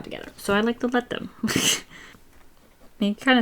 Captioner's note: laughs